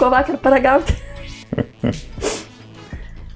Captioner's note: laughs in Lithuanian